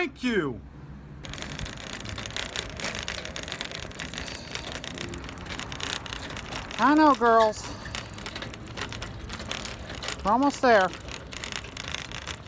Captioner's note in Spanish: suspiros